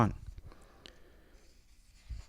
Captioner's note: turns page